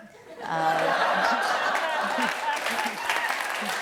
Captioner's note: applause